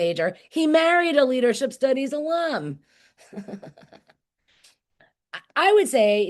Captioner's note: laughing